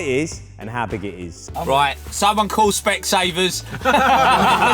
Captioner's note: laughter